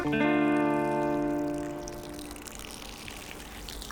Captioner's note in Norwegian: Lyden av en pissestråle